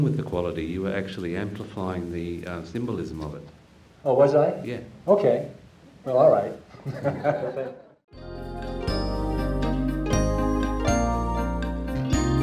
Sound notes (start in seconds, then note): 6.7 audience chuckling; 8.2 gentle upbeat music